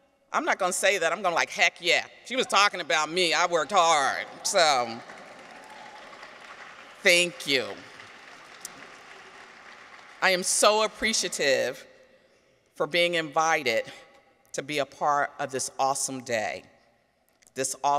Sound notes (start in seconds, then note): 3.5 audience applauds